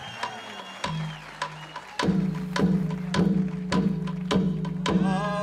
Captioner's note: cheering and applause